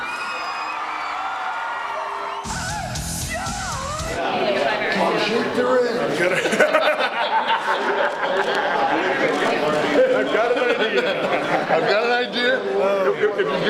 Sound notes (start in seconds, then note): 0.0 audience cheering; 6.8 wrestlers laughing